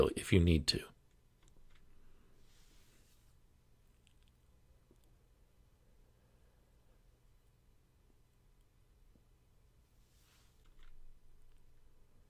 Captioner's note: 10 second pause